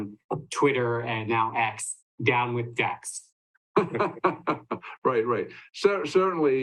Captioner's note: laughing